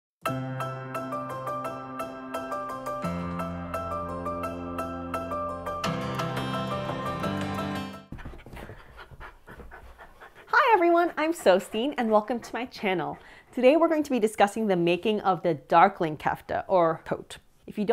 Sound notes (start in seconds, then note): 0.7 upbeat music begins; 8.1 dog panting